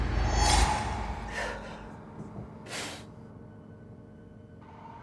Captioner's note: Jacob panting